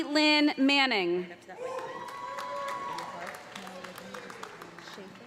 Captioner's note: cheers and applause